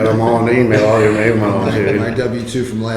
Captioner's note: laughing drowns out speaker